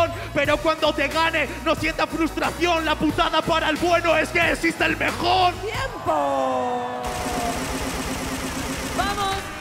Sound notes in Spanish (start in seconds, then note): 7.0 Aplausos